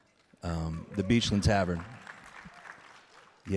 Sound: audience cheering; audience clapping

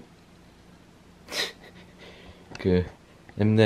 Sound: hehehehe

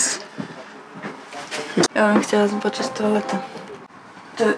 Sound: speaking Polish

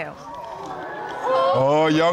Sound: audience exclaiming

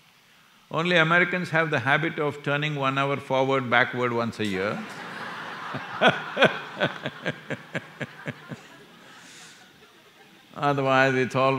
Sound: laughter

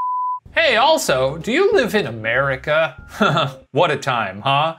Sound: chuckles

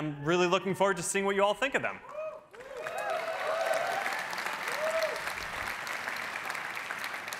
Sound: cheering

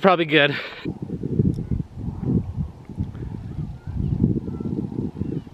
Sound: wind blowing

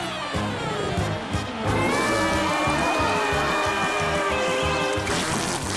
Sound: roaring

